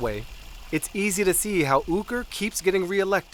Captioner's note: none